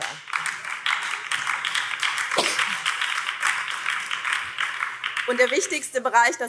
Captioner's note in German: Beifall BÜNDNIS 90/DIE GRÜNEN